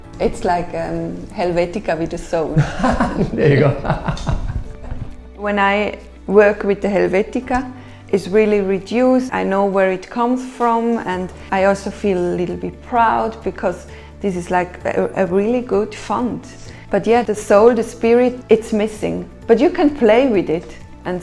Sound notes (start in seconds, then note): 2.4 laughs